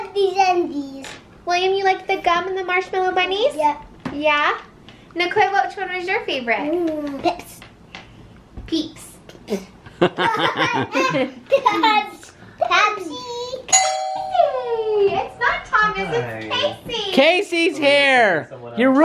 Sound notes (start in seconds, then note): 9.9 laughing; 13.7 doorbell rings